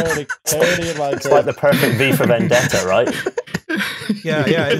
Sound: laughter

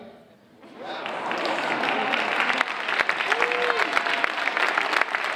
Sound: audience applauding

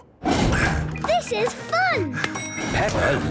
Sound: panting

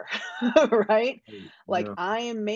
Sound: chuckles

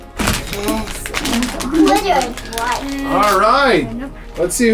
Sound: package crackling

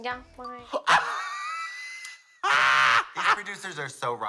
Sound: Trixie caws

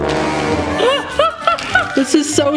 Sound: chuckling

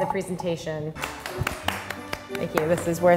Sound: applause

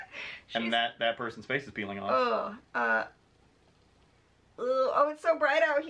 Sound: groans

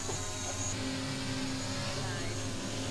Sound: drone motors

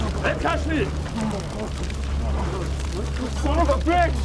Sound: fire crackling

